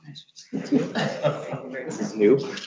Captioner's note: laughs